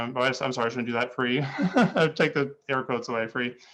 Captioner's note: laughing